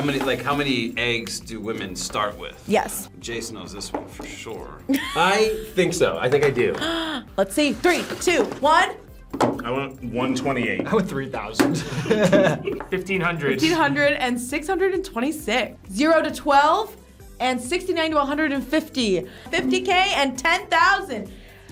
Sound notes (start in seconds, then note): 6.8 React laughs; 6.8 React gasps; 11.8 laughs